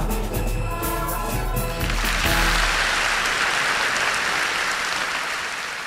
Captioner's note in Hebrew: מחיאות כפיים